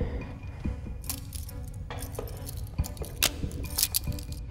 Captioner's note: keys jingling